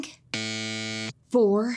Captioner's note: buzzer wailing